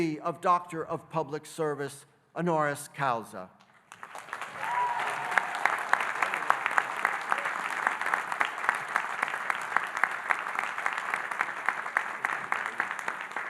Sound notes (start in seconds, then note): 3.8 audience applauding and cheering